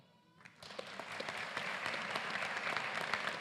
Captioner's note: applause